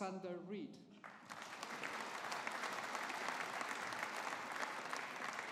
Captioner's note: audience applauding